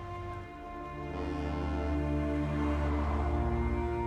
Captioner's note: ship's horn blows